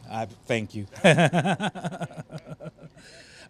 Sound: laughter

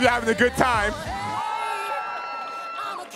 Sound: audience cheering

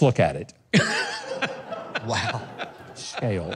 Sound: members of the audience laughing

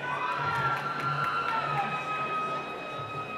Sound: cheering

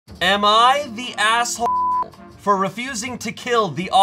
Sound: beep

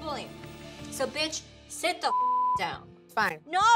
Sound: beep

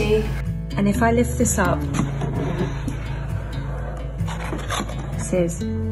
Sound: box lid scrapes

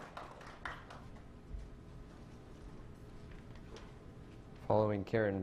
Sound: clapping

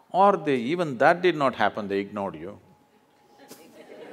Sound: laughter

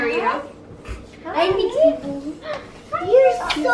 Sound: chatter

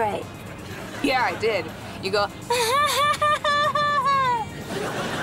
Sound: laughing

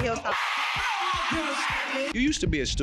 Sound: crowd cheering loudy

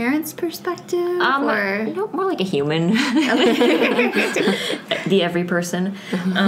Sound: laughs

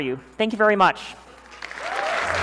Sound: applause

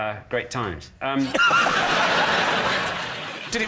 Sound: laughter

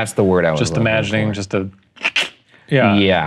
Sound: tongue clicking

